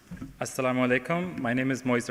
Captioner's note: speaking in foreign language